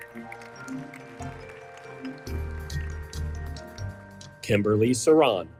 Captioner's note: audience applauding; audience cheers